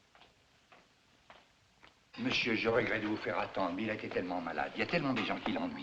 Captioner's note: French